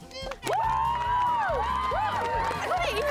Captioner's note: cheering